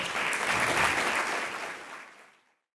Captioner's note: applause